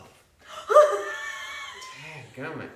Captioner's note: laughing